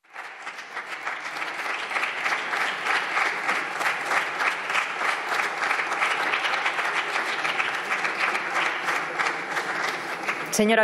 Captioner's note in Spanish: Aplausos